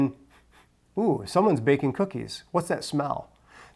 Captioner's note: sniffs